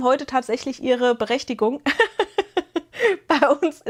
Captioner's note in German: gelächter